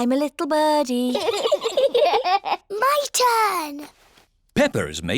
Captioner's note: both giggle